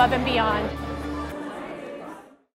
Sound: crowd talking

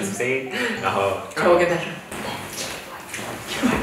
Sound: whispering in your ear

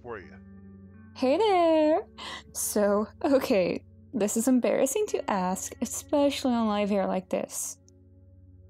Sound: laughs

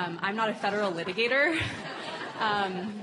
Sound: laugh

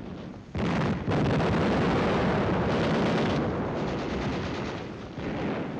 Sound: bombs exploding and guns firing

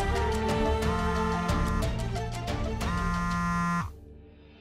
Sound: phone vibrating

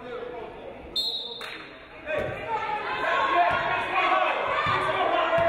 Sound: referee blows whistle

